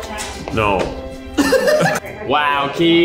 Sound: laughing

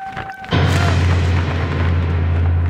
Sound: heavy sound

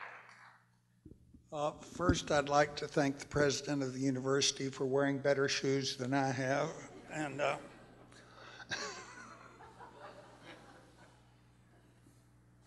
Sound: laughter

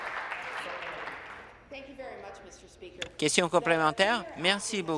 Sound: some Applause

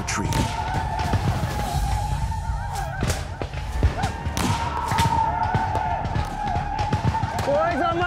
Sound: gunshots, whooping

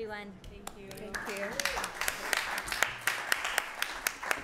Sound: applause

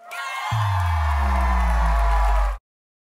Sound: cheering and applause

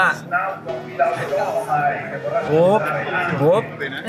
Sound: announcer speaking in Italian

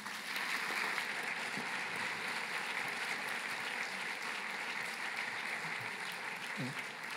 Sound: applause

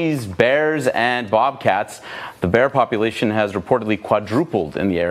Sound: none

